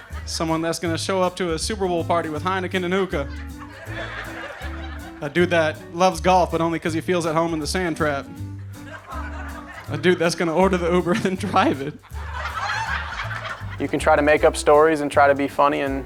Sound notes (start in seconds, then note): 8.8 audience laughing; 11.0 laughing